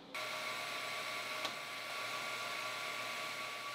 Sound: machine whirling

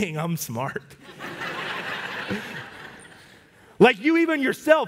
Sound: congregation laugh

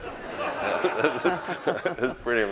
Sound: audience laughing

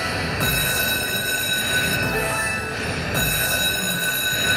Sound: electronic music; bell ringing

